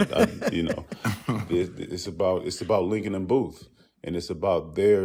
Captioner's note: laughter